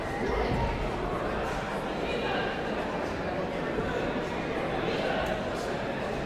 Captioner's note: audience chattering continues